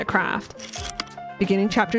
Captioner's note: projector slide click